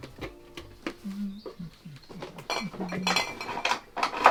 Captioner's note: hums